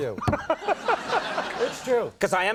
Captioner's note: Conan laughs